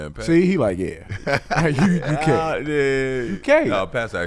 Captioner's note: laughing